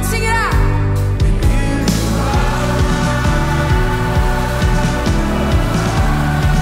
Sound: crowd

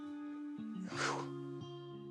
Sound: sighs

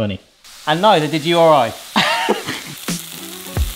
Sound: laughs; smooth groovy music; pan sizzling

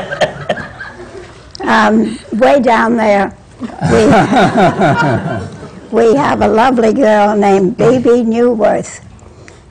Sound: laughter

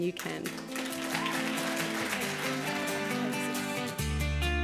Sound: applause and music

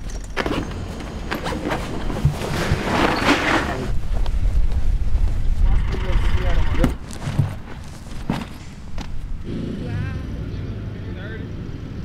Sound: zipper zipping

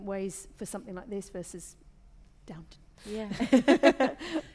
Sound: laughter

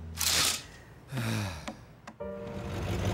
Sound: heavy sigh

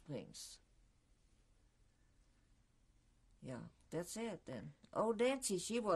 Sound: pauses for 3 seconds

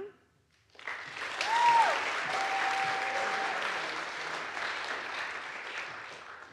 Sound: audience applauds; audience cheers

